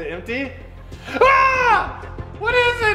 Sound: screaming

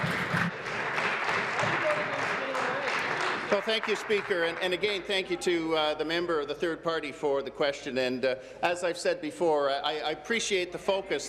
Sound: applause

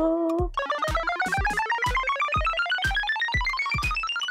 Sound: wheel spinning

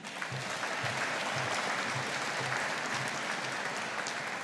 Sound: audience applauding

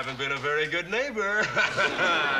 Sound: laughing

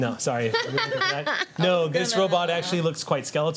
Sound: laughter

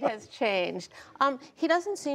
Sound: laughter

